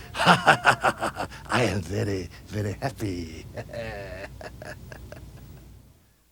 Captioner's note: chuckling